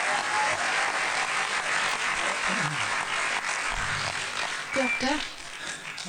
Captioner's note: applause; laughs